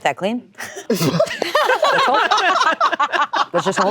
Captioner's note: group laughing